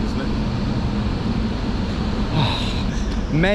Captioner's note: sighs